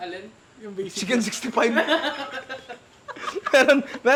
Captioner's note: laughs